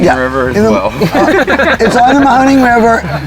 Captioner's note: both laughing